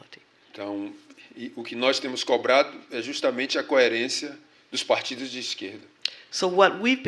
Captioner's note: speaking portuguese